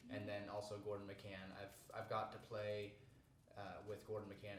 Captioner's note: none